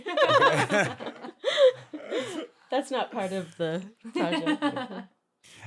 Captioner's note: laughter; laughter